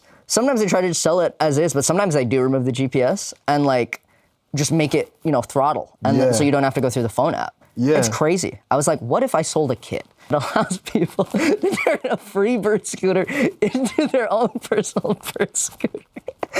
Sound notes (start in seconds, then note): 11.2 laughs